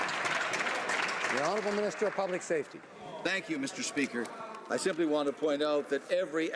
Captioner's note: some Applause